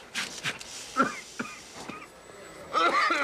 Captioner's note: coughing